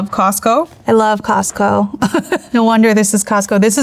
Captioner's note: laughs